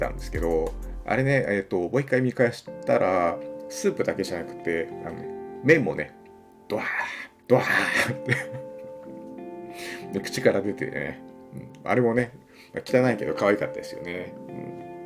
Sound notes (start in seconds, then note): 7.6 laughing